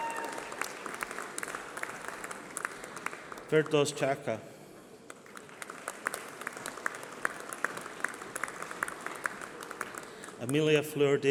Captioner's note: applause